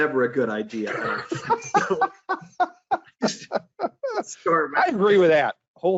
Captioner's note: laugh